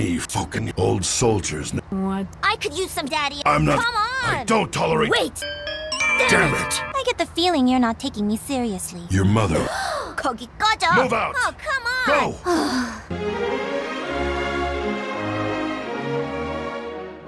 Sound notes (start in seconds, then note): 9.6 gasp; 12.4 sigh